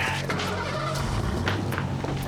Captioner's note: engine starting